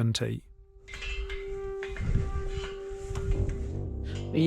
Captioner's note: metal clanking